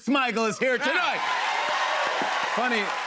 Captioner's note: cheers and applause